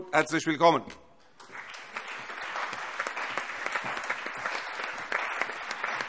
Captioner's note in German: Allgemeiner Beifall